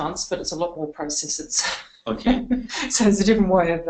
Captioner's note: laughing